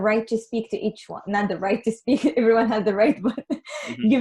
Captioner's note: laughs